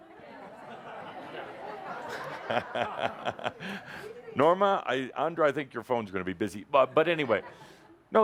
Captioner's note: laughter